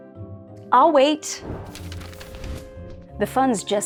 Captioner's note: whoosh; pages flipping